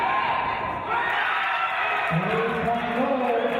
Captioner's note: cheering and applause